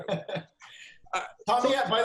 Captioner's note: laughs